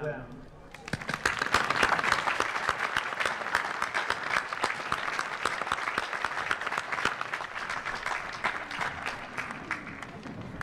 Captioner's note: applause